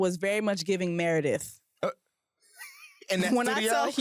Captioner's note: laughs